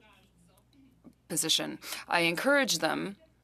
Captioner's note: speaking french